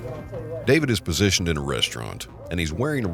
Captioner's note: voiceover